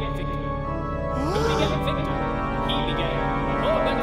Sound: gasp

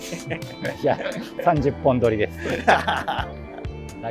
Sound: laughing

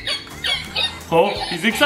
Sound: soft music; balloon makes sounds

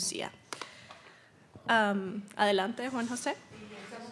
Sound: speaking Spanish

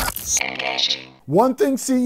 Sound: electronic Voice

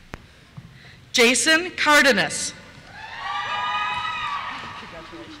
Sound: cheers

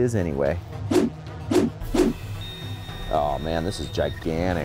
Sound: intense music; beeping

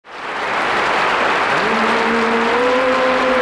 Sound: audience applauding

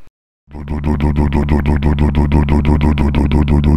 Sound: motor sound

